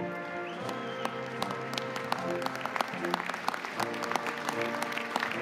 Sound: audience applauding

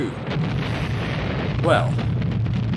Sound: explosions continue

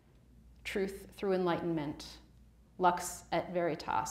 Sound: speaks Latin

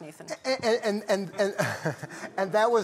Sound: laughter

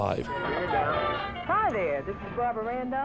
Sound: murmuring

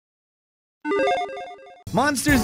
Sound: logo beeps

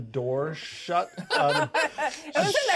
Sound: laughs

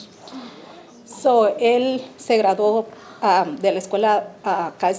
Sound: speaking Spanish

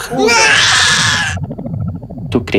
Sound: baby crying

